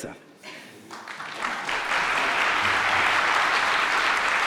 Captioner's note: audience clapping